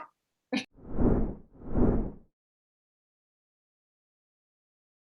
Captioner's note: graphic whooshes